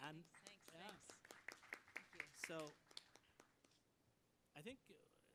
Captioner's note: applause